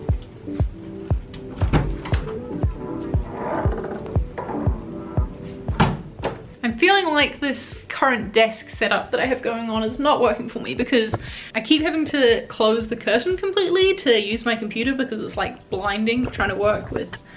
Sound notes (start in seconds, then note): 1.5 door cracks open; 5.7 door slams